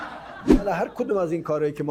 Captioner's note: laughter